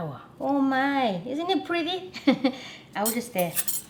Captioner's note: chuckles